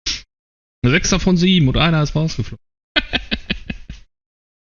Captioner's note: laughs